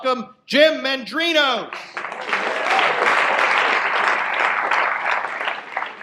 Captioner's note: audience applause